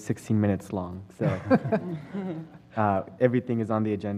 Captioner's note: laugh